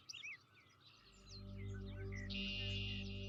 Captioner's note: birds singing